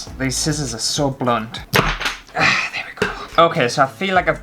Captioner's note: chop!